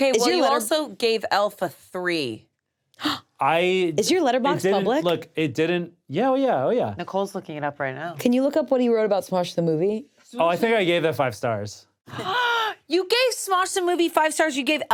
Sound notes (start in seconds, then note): 3.0 gasps